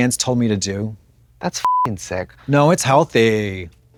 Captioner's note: beep